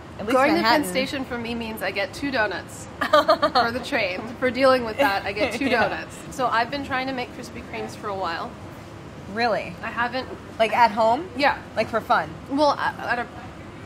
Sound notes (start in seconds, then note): 3.0 laughs